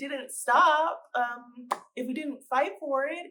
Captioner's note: pop sound